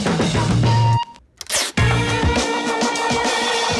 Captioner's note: tape zips; upbeat music